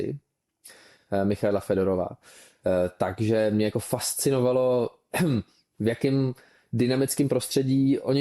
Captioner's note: clears throat